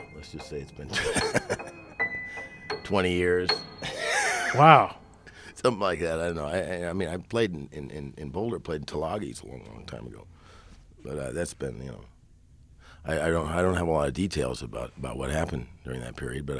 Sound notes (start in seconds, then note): 3.8 laughing